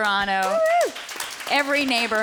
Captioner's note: applause